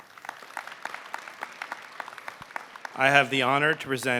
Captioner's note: applause